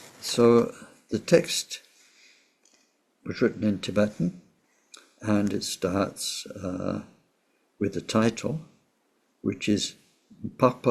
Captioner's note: tibetan